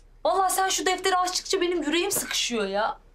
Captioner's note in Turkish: none